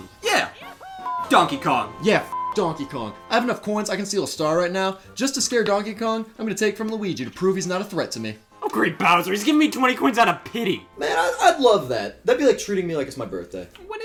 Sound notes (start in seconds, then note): 2.3 beeps